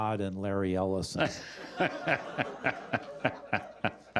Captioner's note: laughter